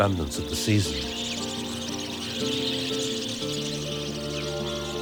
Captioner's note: birds chirping